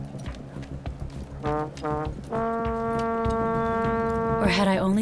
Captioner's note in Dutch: geboren blaring